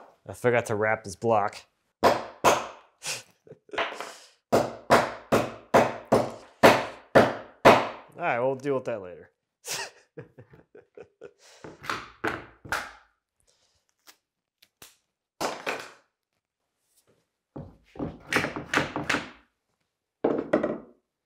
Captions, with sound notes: I forgot to wrap this block. (mallet bangs) (mallet bangs) All right, we'll deal with that later (chuckles). (mallet bangs) (mallet bangs)